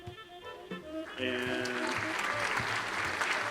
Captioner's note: audience applause